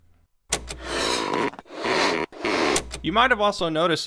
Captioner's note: balloon squeaking